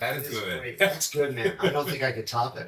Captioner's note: chuckles